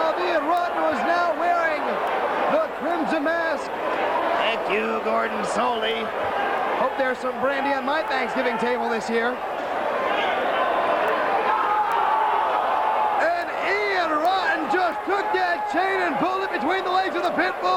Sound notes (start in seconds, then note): 5.6 crowd cheering